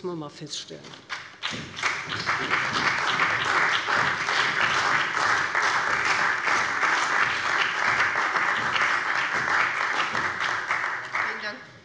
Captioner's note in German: Beifall bei dem BÜNDNIS 90/DIE GRÜNEN und der CDU